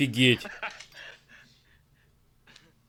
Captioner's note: laughter